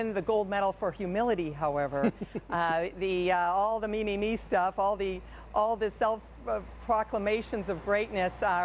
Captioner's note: laughter